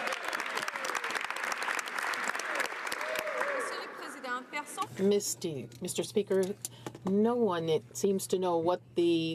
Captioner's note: some Applause